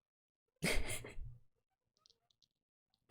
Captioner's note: laughs